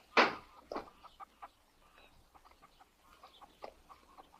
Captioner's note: chickens cluck